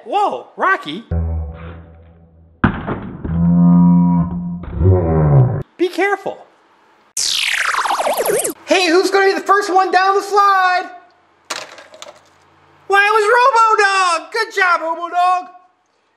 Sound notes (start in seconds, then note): 1.2 slow motion audio; 2.7 crash; 3.6 slow motion audio; 7.2 futuristic space music